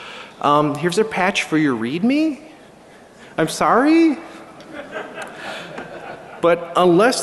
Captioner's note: laughter